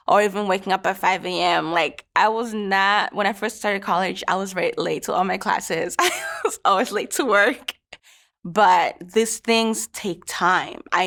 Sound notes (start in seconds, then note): 5.9 laughs